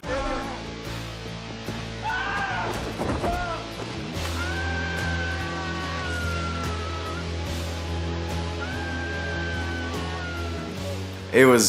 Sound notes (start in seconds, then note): 2.0 man screams; 2.9 table thuds; 4.3 man screams; 8.7 man screams